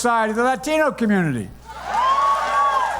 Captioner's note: cheering and applause